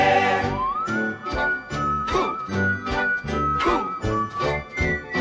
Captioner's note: whistling a tone